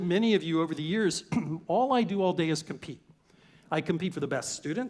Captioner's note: cough